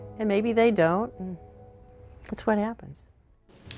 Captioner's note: light switch clicks, door squeaks